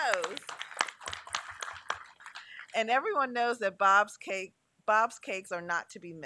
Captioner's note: applause